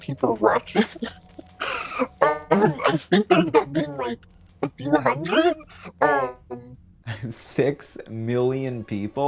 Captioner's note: laughs